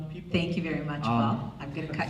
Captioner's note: voiceover